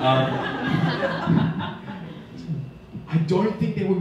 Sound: audience laughing

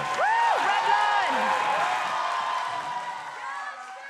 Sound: crowd continues cheering

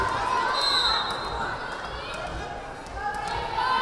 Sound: whistle blaring

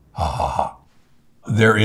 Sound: chuckling

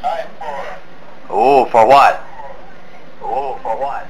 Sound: voiceover

